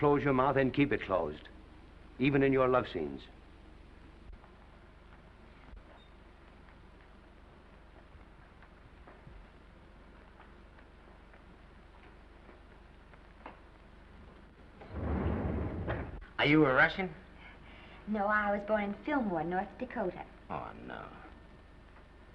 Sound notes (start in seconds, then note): 14.8 doors sliding